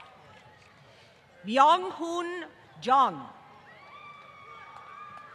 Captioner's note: applause